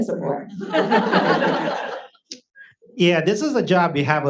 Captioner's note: audience laughs